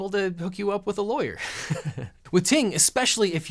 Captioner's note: chuckling